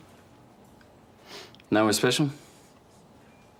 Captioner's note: sniffs